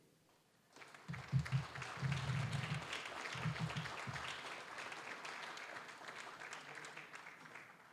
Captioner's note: applause